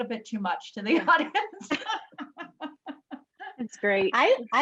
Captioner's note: laughs